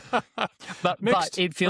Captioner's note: laughs